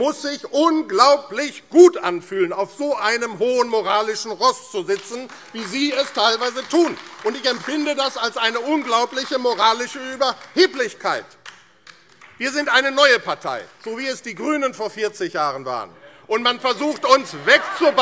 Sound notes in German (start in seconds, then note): 10.8 Beifall AfD